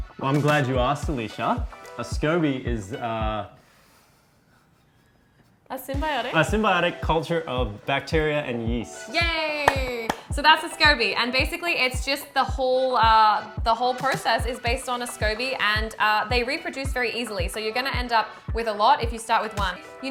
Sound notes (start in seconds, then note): 9.6 claps